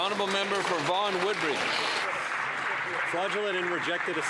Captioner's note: applause